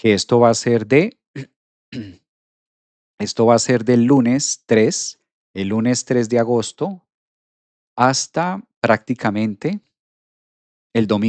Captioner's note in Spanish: carraspeo